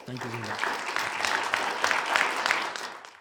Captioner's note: audience applauding